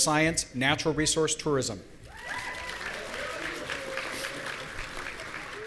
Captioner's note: audience cheering